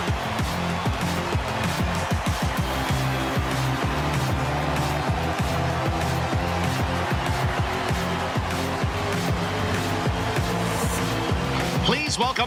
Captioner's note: cheering